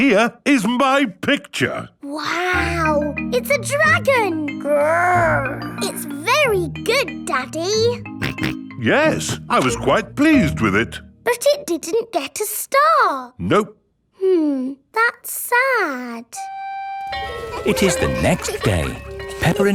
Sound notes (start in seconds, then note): 8.2 snorts